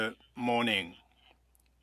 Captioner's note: speaking French